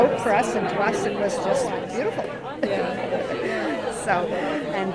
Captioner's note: laughs